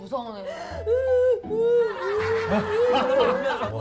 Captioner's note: crying